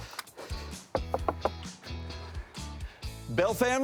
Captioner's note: knocking